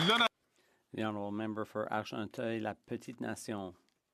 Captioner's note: some Applause